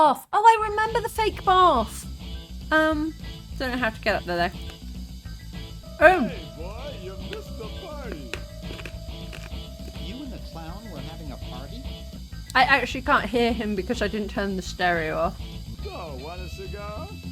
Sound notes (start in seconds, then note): 8.0 crunching sweet